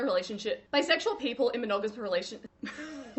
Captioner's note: laughs